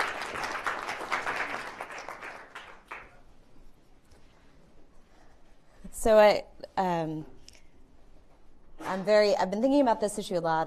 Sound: applause

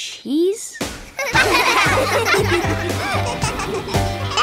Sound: laughing

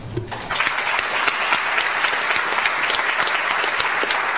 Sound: audience applauds

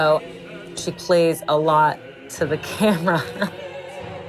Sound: laughs

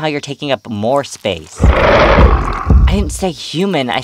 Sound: Azazel Snarls

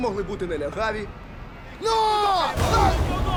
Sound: encouraging yells

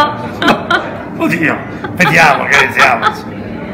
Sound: laughing

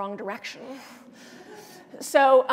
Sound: laughter

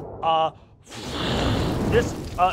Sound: mimics rushing flame

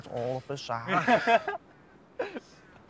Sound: laughing

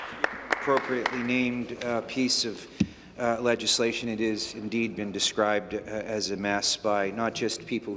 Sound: applause

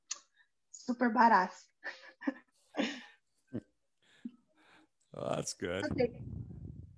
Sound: chuckles

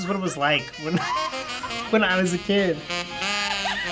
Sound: laughs

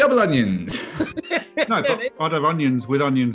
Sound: laughing

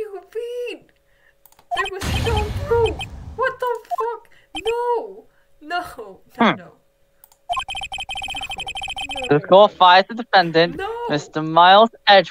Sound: mental breakdown noises

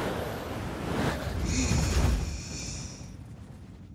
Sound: exhales

